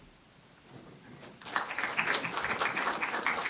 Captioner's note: applause